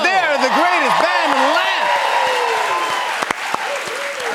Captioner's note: cheers and applause